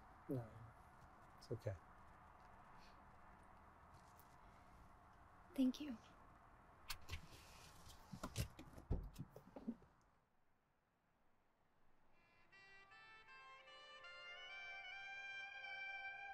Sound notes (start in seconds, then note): 6.8 seatbelt unfastens; 12.2 sultry saxophone music